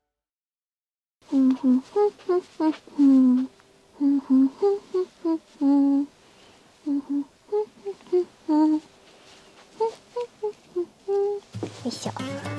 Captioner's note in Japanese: の鼻歌